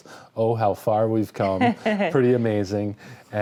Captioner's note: laughing